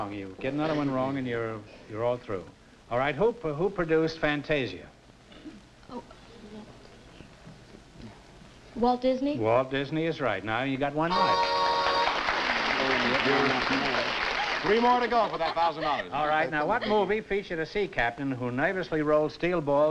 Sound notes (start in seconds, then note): 11.0 horn blow; 11.7 applause